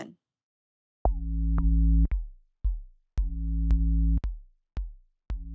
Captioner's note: soundbite of archived recording